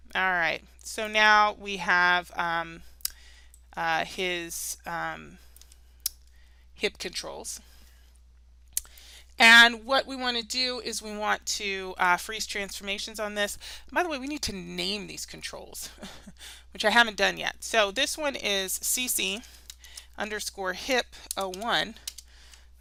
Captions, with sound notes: All right, so now we have his hip controls. And, what we want to do is we want to freeze transformations on this. And by the way, we need to name these controls. (chuckles) Which I haven't done yet, so this one is C-C underscore hip01.